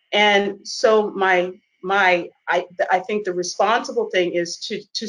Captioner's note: none